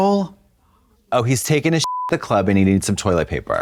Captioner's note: beep